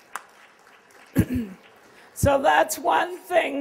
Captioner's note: applause